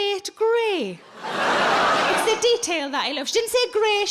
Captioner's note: audience laughing